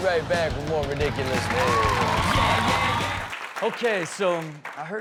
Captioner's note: audience cheers